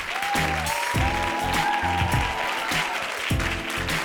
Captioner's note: audience clapping; smooth jazz; audience cheering